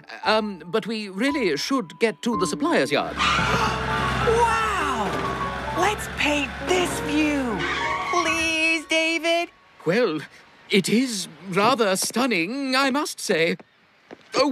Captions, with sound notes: UMM... BUT WE REALLY SHOULD GET TO THE SUPPLIER'S YARD. ( Gasps ) WOW! LET'S PAINT THIS VIEW! ( Brakes Screech ) PLEASE, DAVID! WELL...IT IS RATHER STUNNING, I MUST SAY.